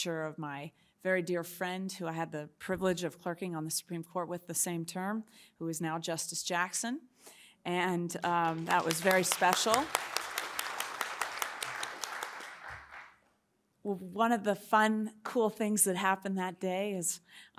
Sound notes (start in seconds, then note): 8.2 audience clapping